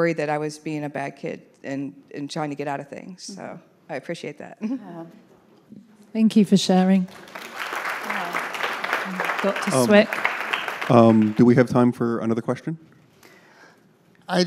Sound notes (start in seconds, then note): 7.0 audience applauding